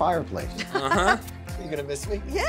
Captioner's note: laughs